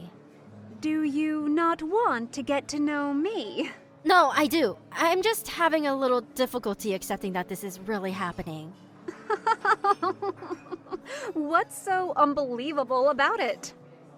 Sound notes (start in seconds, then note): 9.1 chuckles